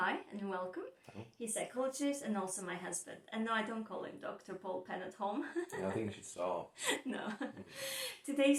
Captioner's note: laughs